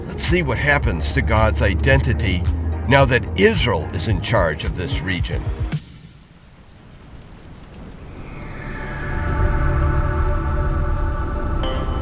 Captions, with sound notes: LET'S SEE WHAT HAPPENS TO GOD'S IDENTITY NOW THAT ISRAEL IS IN CHARGE OF THIS REGION. (RAIN SPLASHING) (MELLOW MUSIC)